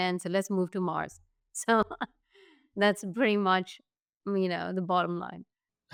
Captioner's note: laughs